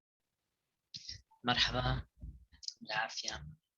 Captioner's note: nonenglish speech